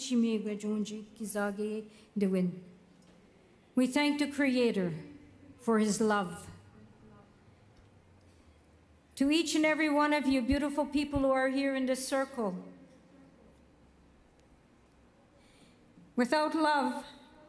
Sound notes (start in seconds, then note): 0.9 speaking Indigenous Language